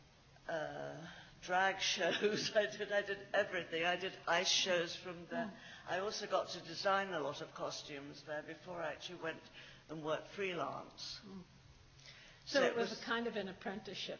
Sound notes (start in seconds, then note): 2.1 laughs